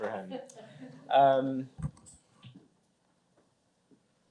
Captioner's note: laughter